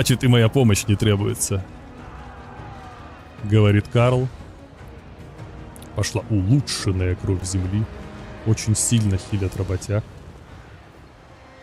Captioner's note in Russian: крик